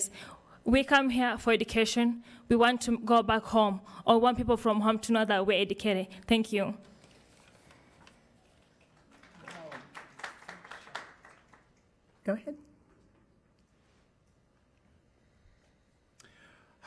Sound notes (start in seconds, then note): 10.0 attendees clapping